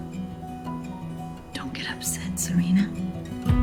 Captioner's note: voiceover